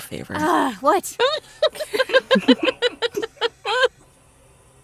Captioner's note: chuckles